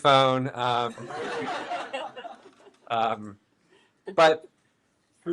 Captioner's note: all laughing